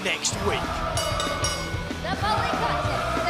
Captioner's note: bell ringing